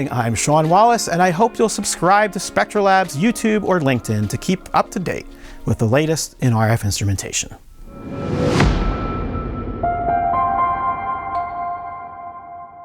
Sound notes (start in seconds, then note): 7.8 dramatic music; 7.8 logo thudding; 9.9 tranquil music